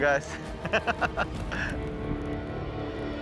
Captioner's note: chuckling